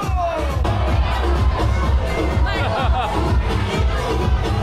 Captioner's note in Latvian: Aplausi